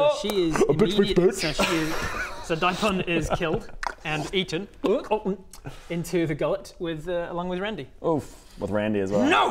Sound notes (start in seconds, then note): 4.8 gulp gulp